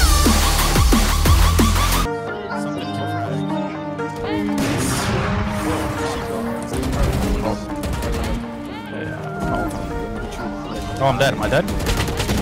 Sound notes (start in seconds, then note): 0.2 upbeat music; 6.9 guns firing